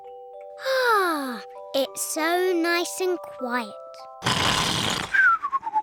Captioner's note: sighs happily; george snores loudly